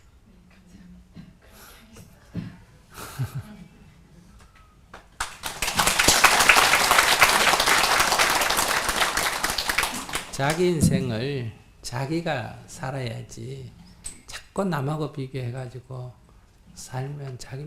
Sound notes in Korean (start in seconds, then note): 1.4 스님 웃음; 1.4 청중 박수